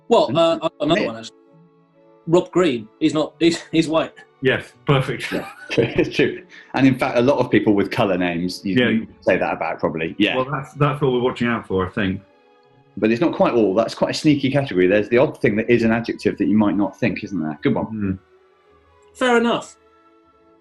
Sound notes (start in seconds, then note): 5.1 laughing